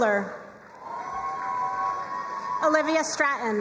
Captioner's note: crowd cheering and applauding